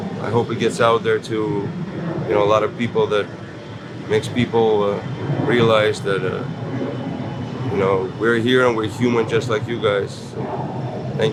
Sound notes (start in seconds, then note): 5.7 plane roars overhead